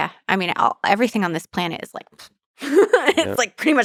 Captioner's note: laughs